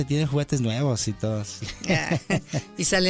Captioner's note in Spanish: Risas